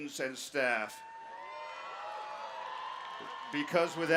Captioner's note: cheering